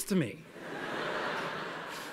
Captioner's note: laughter